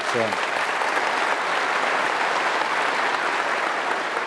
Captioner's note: applause